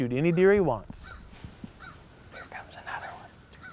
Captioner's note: whispering